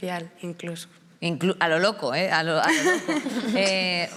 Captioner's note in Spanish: algunas ríen